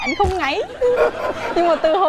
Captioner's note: laughing